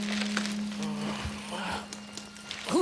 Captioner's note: groaning